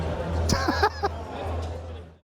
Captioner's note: laughing